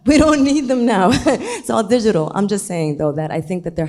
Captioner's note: chuckles